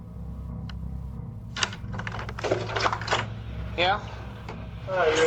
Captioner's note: door opens